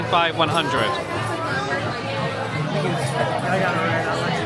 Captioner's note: crowd chattering